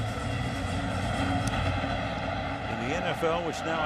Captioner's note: pa announcement